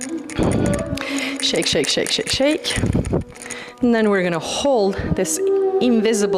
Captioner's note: snorts